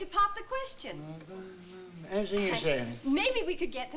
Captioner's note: humming